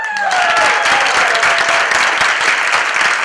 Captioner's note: applause